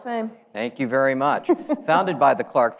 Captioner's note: laughs